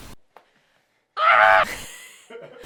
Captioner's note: laughing; screen hissing